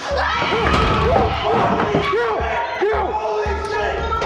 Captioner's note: screaming